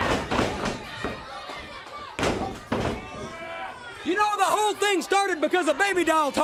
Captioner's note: crowd chatter